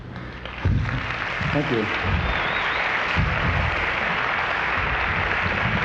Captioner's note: audience applauds